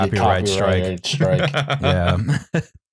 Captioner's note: laughs